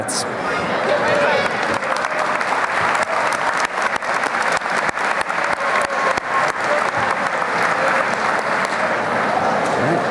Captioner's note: applause